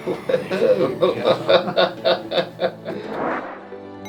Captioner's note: laughing